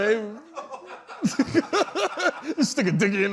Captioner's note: laughter